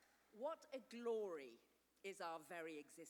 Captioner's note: none